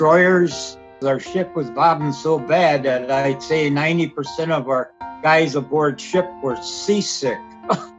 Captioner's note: chuckles